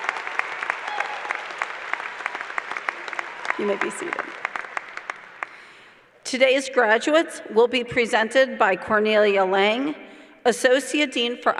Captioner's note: applause